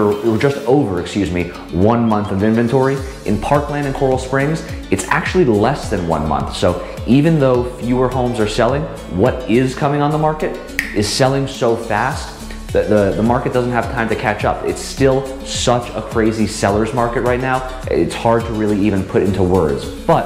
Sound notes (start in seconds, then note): 10.7 finger snaps